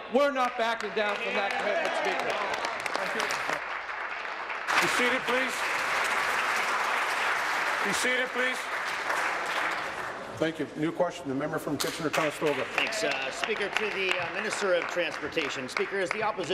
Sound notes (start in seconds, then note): 6.4 applause